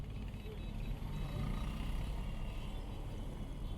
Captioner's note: traffic sounds